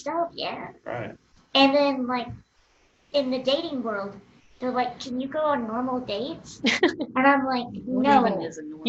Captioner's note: laughter